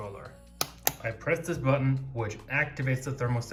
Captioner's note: button clicking